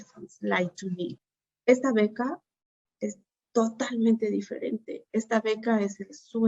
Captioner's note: Spanish